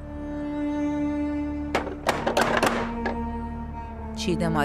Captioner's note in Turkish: Kapı tokmağı vurma sesi